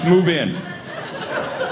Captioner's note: audience laughing